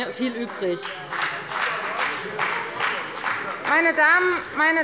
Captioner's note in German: Beifall bei der FDP und bei Abgeordneten der SPD